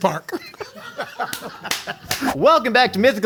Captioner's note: they laugh; claps